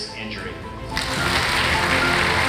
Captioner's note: applause